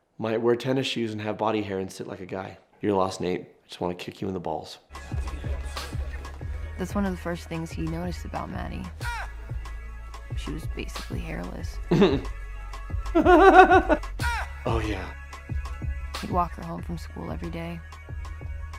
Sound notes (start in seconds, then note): 5.7 hip-hop music; 13.1 laughing